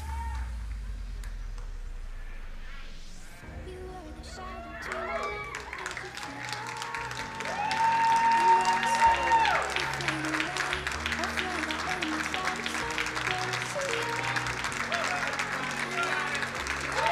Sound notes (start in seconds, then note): 7.4 crowd cheering and applauding; 16.9 crowd cheering